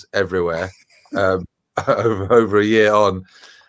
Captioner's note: laughing; laughs